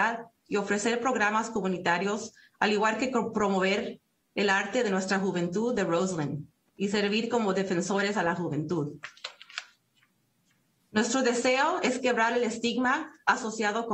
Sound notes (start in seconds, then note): 2.1 speaking Spanish